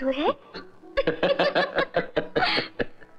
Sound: laughing

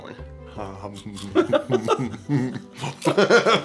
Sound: munch, munch

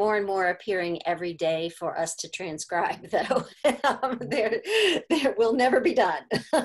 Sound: laughter

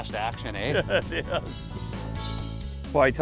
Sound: laughs

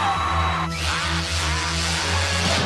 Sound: cheering; imitating tool engine; counter explodes

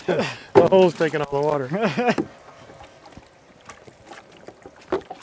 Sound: laughs

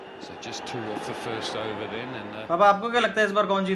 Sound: IPL Cricket match playing on TV

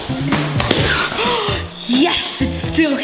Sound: gasps

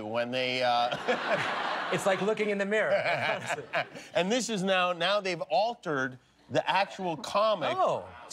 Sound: laughter

